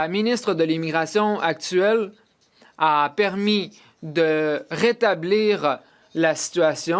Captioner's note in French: voix de l'interprète